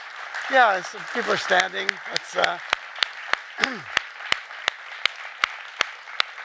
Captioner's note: clapping